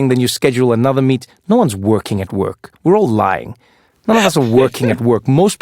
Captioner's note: laugh